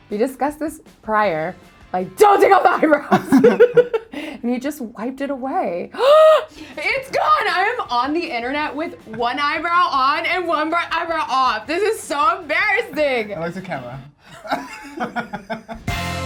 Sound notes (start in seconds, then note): 2.5 laughing; 5.9 gasps; 14.2 laughing